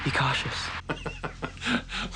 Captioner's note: laughing